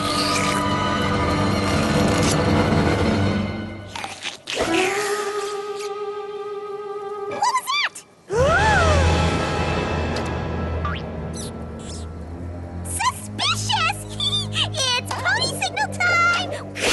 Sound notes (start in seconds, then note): 0.0 slurp; 8.4 horrified gasp